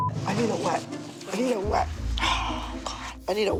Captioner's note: sighs heavily